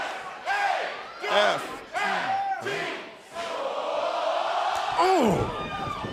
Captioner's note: fans chanting